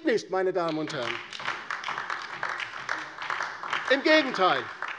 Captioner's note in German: Beifall DIE LINKE und vereinzelt SPD